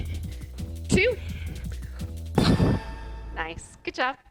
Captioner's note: sound effect